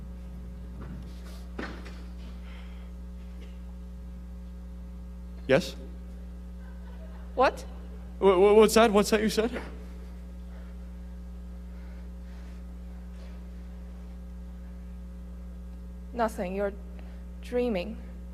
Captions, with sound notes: - Yes? (audience laughing) - What? - What's that? What's that you said? - Nothing, you're dreaming.